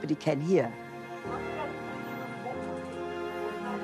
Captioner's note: speaking Portuguese